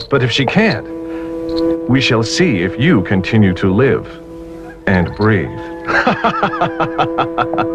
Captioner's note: laughs